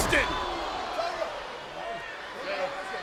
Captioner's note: crowd yelling